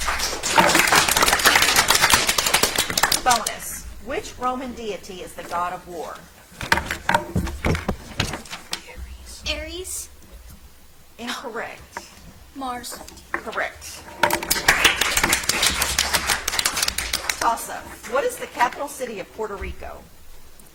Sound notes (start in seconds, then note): 0.0 audience applauds; 14.3 audience applauds